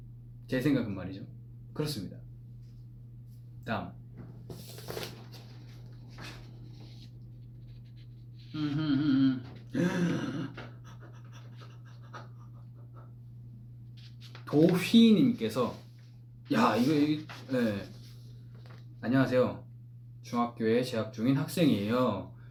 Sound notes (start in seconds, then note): 9.7 gasp